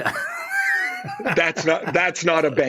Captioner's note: laughter